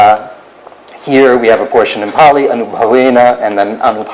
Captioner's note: non-english